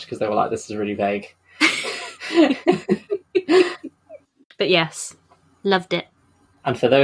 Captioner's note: laughs